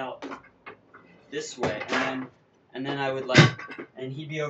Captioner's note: banging